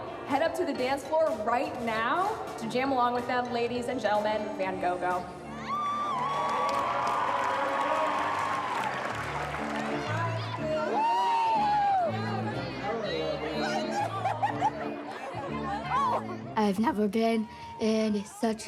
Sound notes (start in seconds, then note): 7.8 cheering, applause; 13.6 hearty laughter